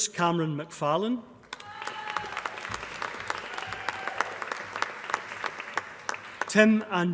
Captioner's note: applause